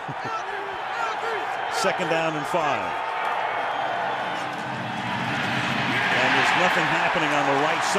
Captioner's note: chuckles